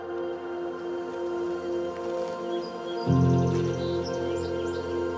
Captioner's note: birds chirping